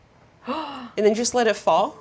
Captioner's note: Claire gasps